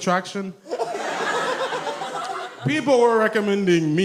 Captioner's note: audience laughs